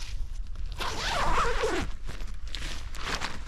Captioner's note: zipper